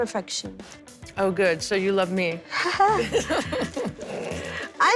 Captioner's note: both laugh